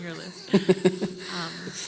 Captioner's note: laugh